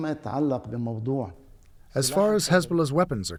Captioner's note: through translator